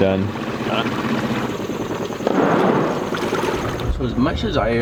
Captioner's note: engine revving